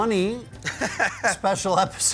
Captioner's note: laughter